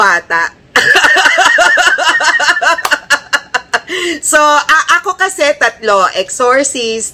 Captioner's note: laughter